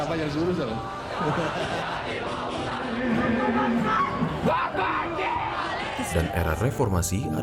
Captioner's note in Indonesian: suara demonstran berprotes